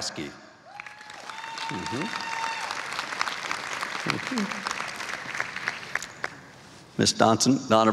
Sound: applause

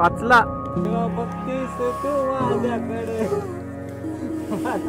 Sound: humming a song in marathi

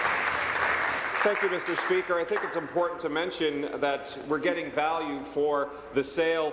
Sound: applause

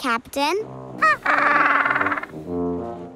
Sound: squawking

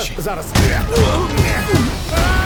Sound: Nick grunts; man groans

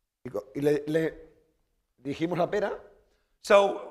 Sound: speaking spanish

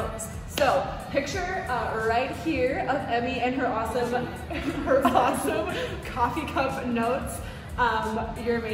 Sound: laughs

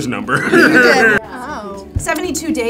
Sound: all laugh

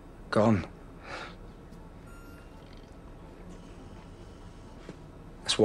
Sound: machine noises continue

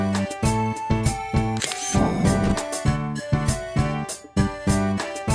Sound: SFX: Camera Shutter

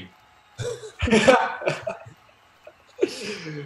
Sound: laughter

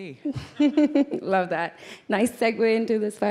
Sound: laughs

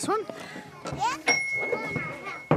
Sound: bell ding

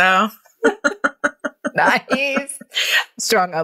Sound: laughing

